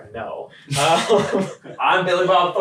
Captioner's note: laughing